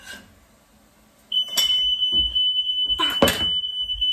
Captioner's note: fire alarm